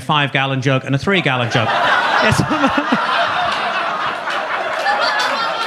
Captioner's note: audience laughs